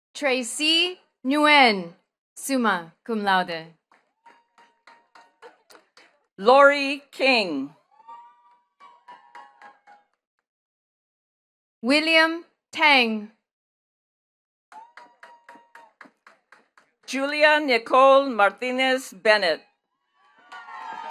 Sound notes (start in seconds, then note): 3.8 attendees cheering and clapping; 7.8 attendees cheering and clapping; 14.7 attendees cheering and clapping; 20.0 attendees cheering and clapping